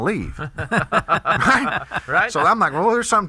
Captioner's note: all laugh